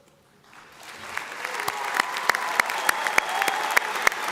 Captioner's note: audience applauds